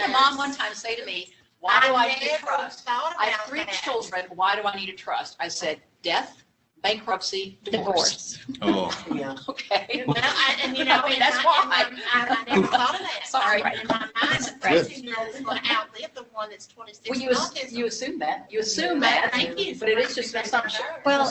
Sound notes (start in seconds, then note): 12.1 laughter